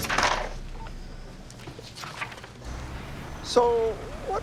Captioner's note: phone beeps